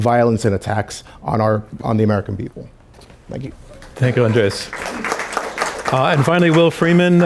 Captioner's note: applause